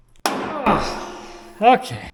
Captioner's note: cyclone thudding; grunts; metals clinking